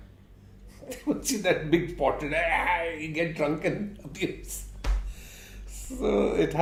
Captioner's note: laughs